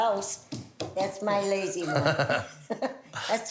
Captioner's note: laughs